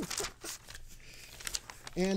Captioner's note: laughing